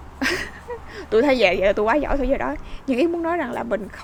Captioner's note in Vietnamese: tiếng cười